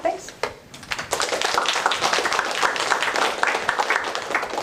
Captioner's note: applause